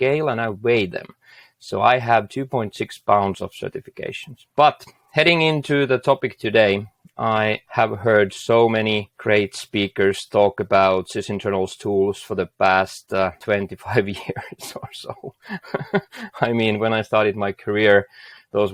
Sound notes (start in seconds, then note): 14.2 laughing